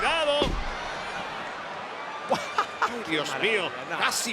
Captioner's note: laugh